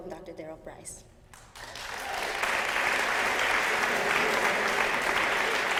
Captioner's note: applause